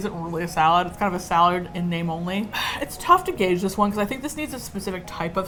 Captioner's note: sighs